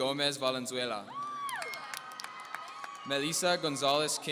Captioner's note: audience cheering